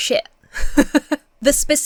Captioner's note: laughs